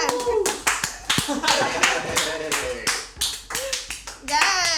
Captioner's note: all clap and cheer